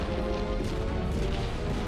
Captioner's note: explosions